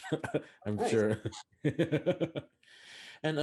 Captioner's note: laughing